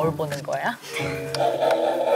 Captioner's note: laughing